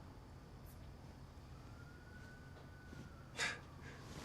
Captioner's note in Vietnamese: tiếng ti vi